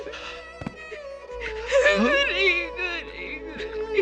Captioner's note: crying